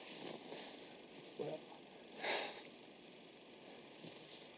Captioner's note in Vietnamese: thở dài